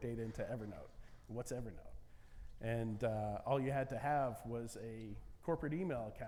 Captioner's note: none